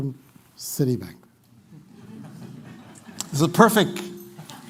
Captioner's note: laughter